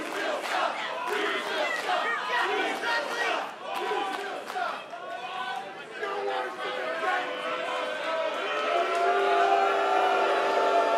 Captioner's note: fans chanting